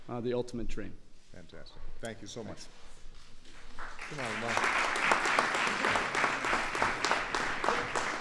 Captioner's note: applause